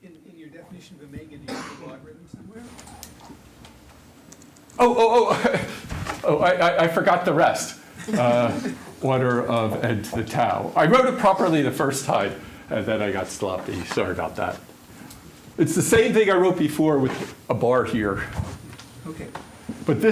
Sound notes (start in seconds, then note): 8.0 laughter